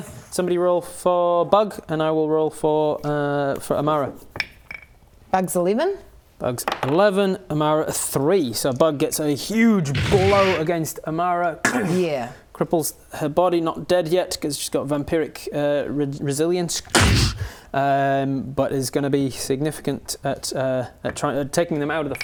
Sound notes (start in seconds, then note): 16.9 humungous clunk